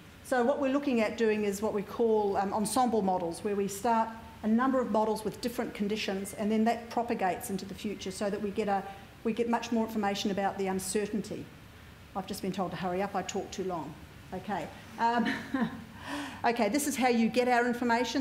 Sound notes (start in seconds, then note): 15.1 laugh